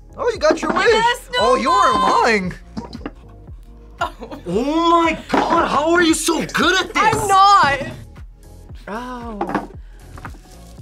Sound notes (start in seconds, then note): 3.9 laughs